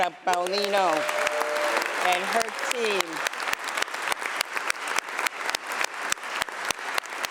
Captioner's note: applause